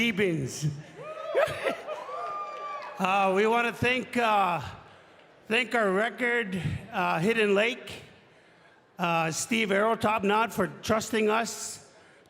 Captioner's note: speaking in french